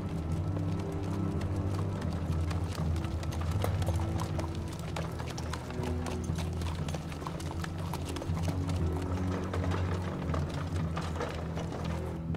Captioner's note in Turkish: At Arabası ve Nal Sesleri